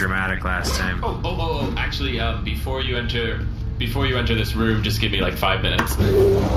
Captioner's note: unzipping bag